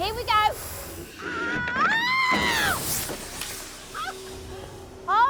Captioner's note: car thumping; Suzanne screaming